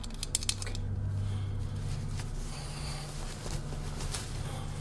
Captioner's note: cap rattles